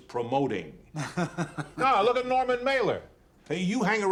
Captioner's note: laughing